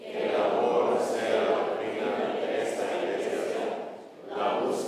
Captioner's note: congregation chants in Spanish